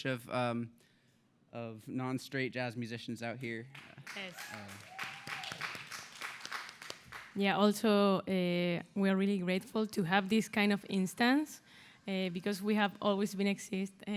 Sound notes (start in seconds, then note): 5.2 applause